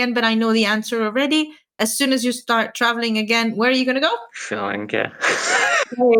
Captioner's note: both laugh